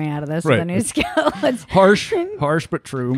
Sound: laughing

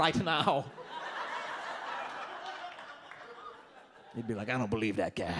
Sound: audience laughs

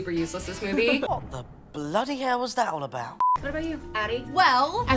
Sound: ladies laughing; beep

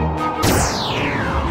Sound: zap

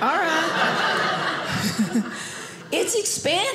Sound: audience laughing

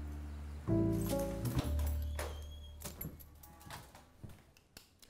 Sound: door opens

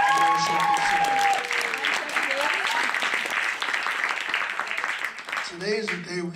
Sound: applause

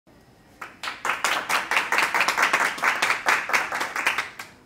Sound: hands clapping

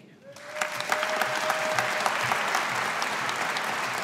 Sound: audience applauding

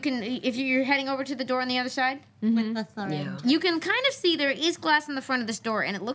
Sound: none

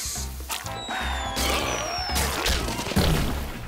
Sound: screaming

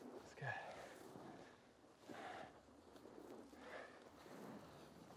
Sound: person breathing

